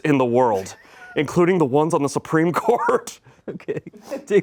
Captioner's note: laughs